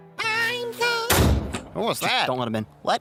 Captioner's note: door slams